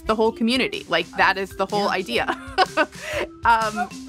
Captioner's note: laughs